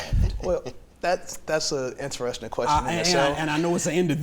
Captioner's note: laughs